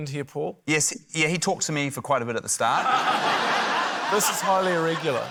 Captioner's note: laughter